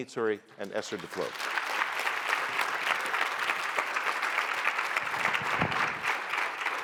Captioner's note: applause